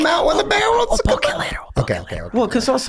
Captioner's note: whispering